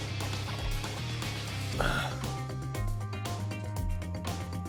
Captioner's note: sigh